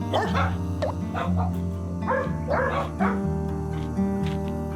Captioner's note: grunts